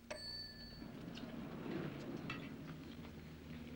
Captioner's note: elevator opens